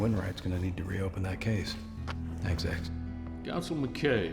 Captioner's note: tapping